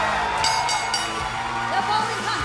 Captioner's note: bell ringing